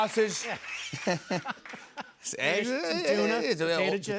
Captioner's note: laughs